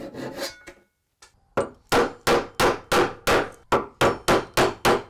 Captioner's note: hammer bangs